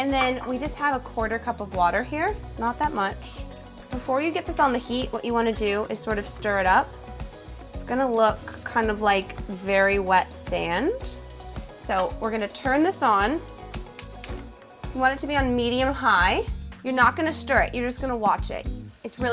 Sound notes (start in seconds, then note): 13.6 burner crackling